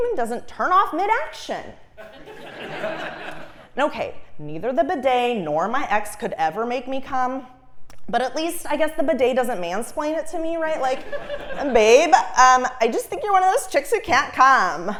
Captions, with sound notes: doesn't turn off mid-action. (Laugh) Okay, neither the bidet nor my ex could ever make me cum. But at least I guess the bidet doesn't mansplain it to me, right? Like, babe, I just think you're one of those chicks who can't cum.